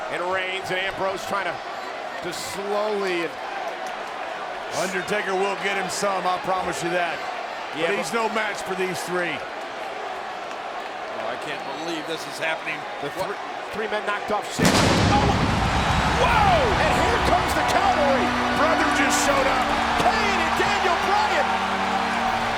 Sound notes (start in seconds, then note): 14.6 pyro bangs; 16.3 audience cheers; 22.1 audience cheers; 22.1 ominous music